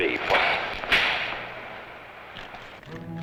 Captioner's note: slapping; suspenseful music